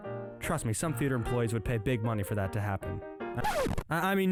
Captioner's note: record scratch